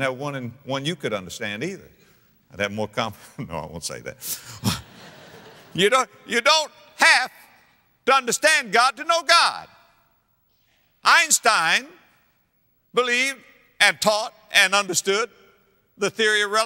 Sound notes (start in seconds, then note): 4.7 audience laughter